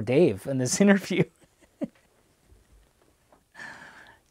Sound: laughs

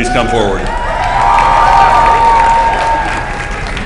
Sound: applause

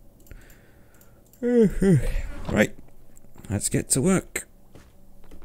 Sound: yawns

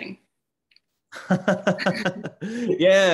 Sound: laughter

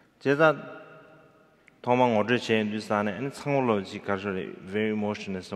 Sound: speaking in foreign language

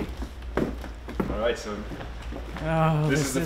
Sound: footsteps approaching

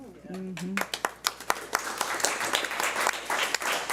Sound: applauding

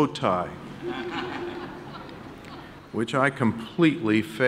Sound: audience laughing

